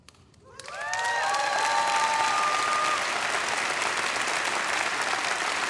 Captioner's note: audience applauding; audience cheering